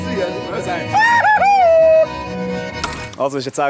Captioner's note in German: Jauchzt